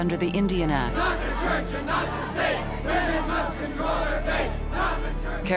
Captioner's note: chanting